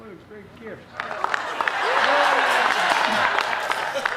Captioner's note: applause